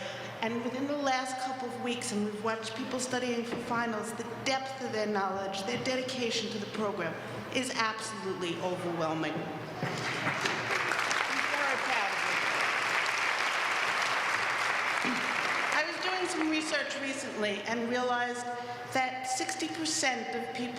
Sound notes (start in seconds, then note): 10.0 applause